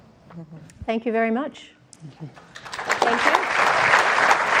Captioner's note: applause